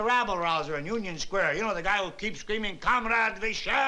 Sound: russian accent

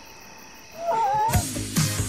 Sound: all scream; upbeat music

